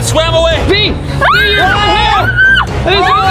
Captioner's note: screaming